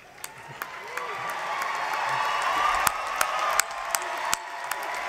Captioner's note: applause